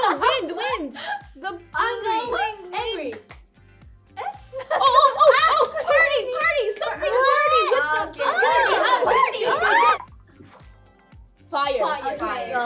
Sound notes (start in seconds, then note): 8.2 group cheering